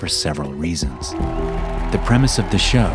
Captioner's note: crowd cheering